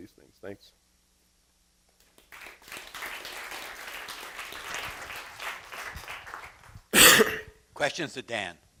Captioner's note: applause